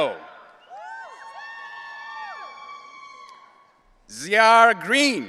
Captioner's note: audience cheering